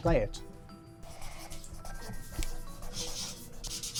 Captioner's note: pen rasping